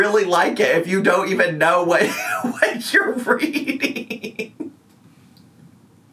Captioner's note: laughing